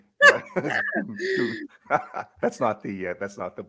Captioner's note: laugh